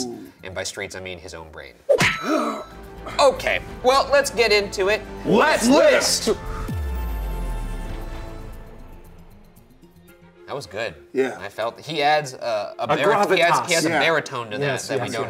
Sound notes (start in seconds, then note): 1.8 Shane grunts; 1.8 fist whacks; 6.7 cool electronic music